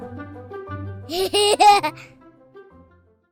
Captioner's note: laughter